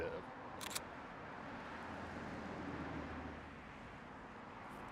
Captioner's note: camera clicks